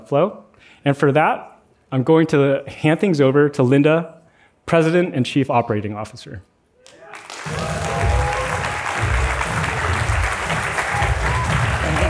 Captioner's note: applause